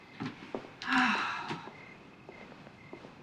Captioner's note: sighs